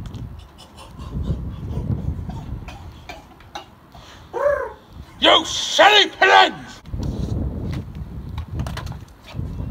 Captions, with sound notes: (Cooing) YOU SILLY PIGEONS!